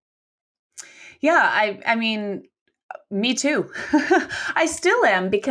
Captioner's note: laughs